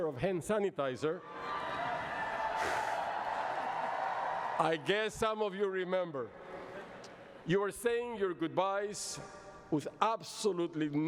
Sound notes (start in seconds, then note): 1.3 cheering